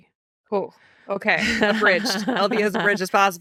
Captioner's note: laughing